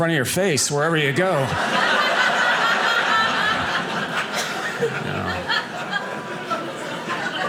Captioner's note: audience laughing